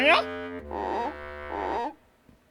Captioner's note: hesitant